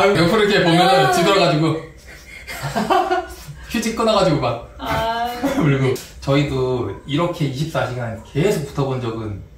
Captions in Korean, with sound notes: 옆으로 이렇게 보면은 뒤돌아가지고. [ 노력했으나 한 공간에서 울음을 참기란 힘들다 ] 저희도 이렇게 24시간 계속 붙어 본 적은